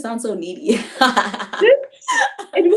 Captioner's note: laughs